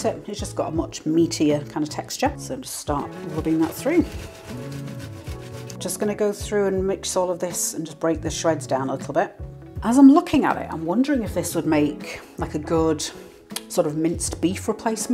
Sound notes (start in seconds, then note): 3.0 scrunch scrunch